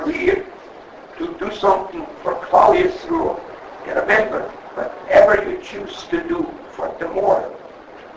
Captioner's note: Yiddish